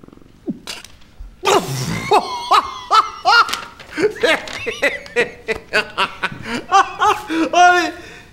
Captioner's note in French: Rire